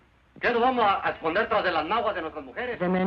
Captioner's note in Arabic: رجل يتحدث الإسبانية